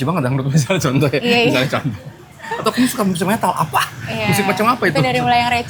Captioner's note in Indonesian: tertawa